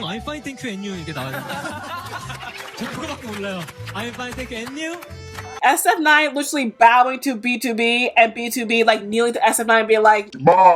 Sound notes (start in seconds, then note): 1.2 laughs